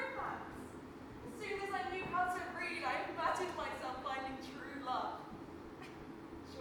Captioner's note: Cinderella laughs